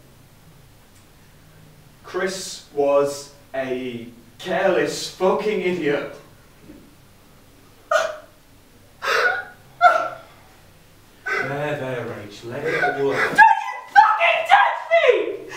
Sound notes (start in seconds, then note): 7.6 cries loudly